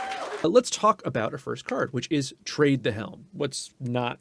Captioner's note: applause and cheering